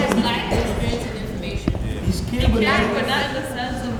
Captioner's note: crowd talking over each other